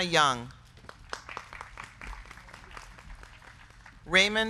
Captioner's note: crowd clapping; crowd cheering